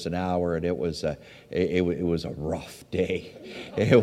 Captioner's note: audience laughs